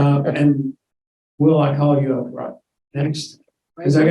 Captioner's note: mumbling